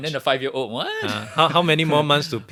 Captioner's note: laughs